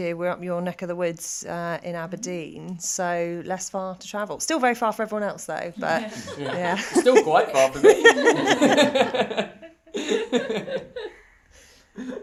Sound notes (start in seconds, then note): 5.8 everyone laughing